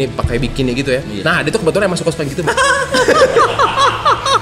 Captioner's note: laugh